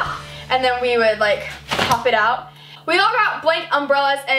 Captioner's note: umbrella pops